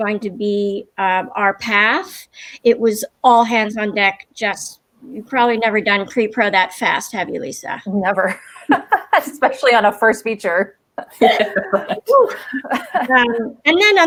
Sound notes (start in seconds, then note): 8.4 laughs; 11.0 laughter